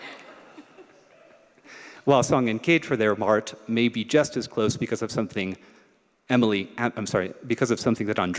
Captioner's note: laughter